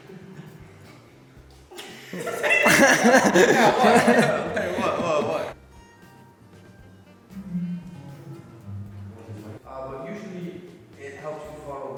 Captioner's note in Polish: śmiech